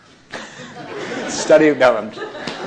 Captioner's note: laughter